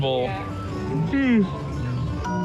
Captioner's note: yawns; music chiming